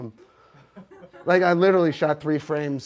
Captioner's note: audience laughs